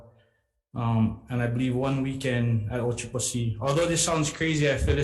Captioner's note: speaks Hawaiian